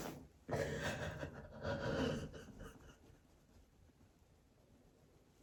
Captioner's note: sobs quietly